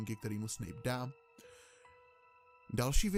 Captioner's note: inhale